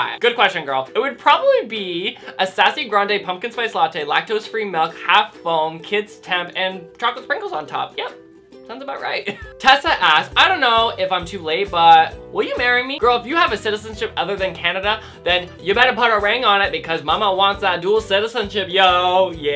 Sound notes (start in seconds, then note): 9.1 laughs